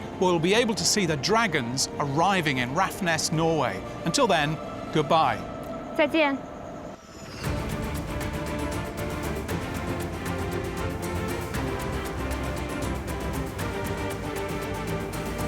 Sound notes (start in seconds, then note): 6.0 speaks in foreign language